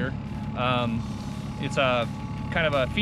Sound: boat engine idling

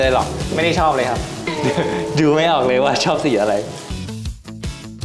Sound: laugh

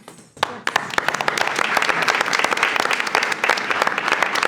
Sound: attendees applauding

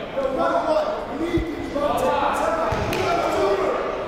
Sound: shouting

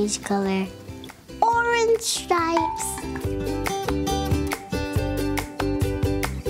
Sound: Barbie clinks

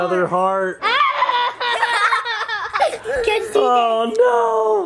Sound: both laughing

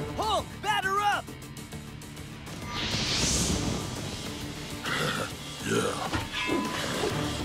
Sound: none

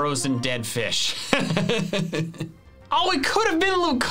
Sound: laughs

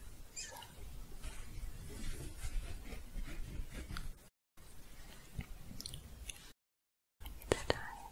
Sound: shuffling

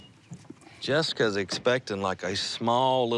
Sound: none

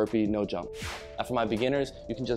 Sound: whooshing sound

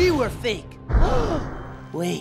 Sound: gasping

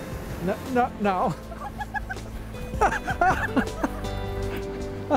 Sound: both laugh

